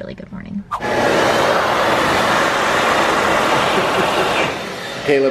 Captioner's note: hand dryer loudly blowing